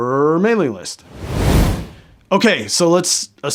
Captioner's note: air whooshing